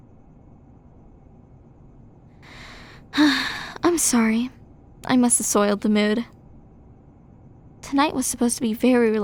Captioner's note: sigh